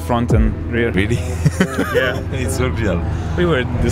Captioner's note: laughing